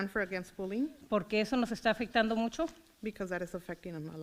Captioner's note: foreign language